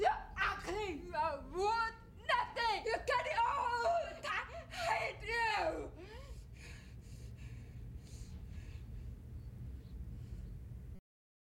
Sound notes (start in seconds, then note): 5.7 panting